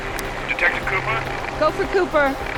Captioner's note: man On Radio